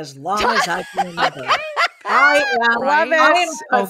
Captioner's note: laugh